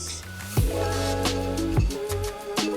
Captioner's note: rattling sound